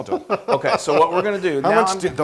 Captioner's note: laugh